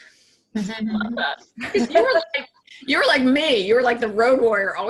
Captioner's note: laughing